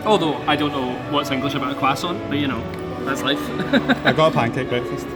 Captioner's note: laughs